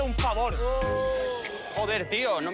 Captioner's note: shouts